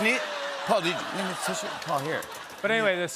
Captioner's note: laughter